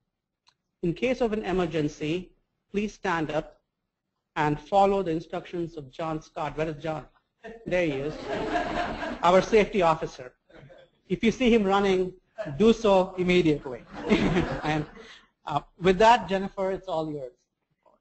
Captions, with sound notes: In case of an emergency, please stand up and follow the instructors of John Scott-- Where’s John? There he is [laugh]--our safety officer. If you see him running, do so immediately. [laugh] With that, Jennifer, it’s all yours.